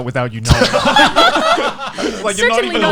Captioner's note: laughs